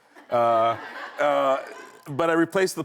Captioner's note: laughing